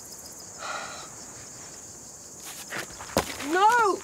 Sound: sighs

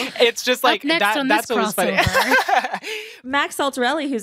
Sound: laughs

